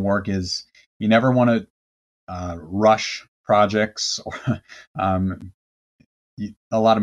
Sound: chuckles

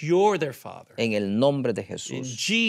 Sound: speaking in Spanish

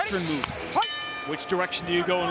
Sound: bell rings

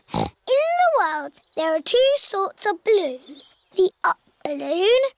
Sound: snorts

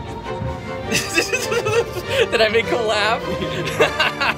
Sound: laughs

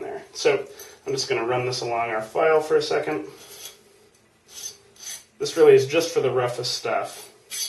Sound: scraping; scraping sounds

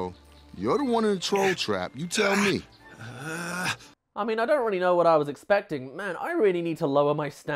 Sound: groan

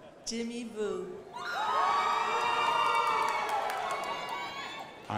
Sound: crowd applauding

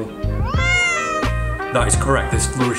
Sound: Charlie meows

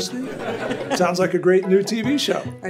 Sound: audience laughs

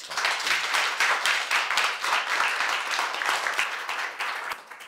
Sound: audience applauds

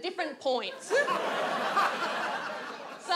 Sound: audience laughs

